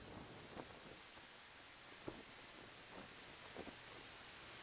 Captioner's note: water spraying